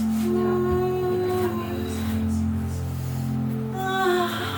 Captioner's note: moaning